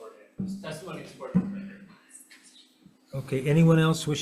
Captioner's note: faintly speaking